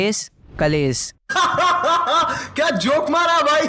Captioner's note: laughter